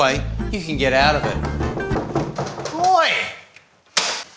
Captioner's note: knocking